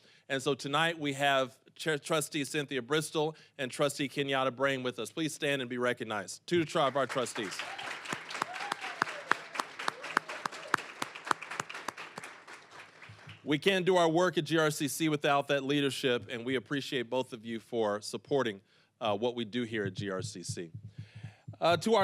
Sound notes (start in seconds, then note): 6.7 applause, cheering; 11.7 applause